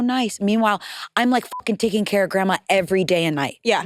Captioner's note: beep